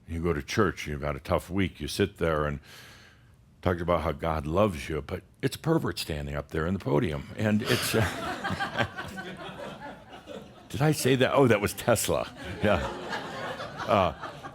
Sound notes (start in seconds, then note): 7.6 laughter; 12.1 more chuckles